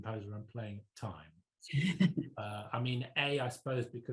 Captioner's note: laughs